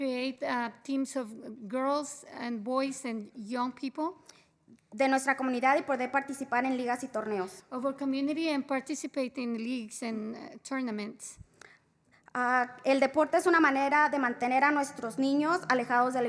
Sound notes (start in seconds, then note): 0.0 spanish; 9.4 spanish